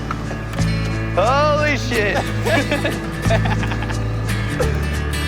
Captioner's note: laughs